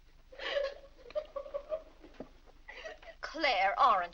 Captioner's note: Annie crying